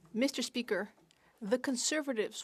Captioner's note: speaking French